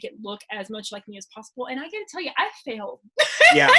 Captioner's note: laughs